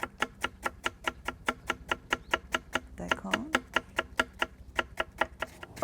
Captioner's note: slicing sounds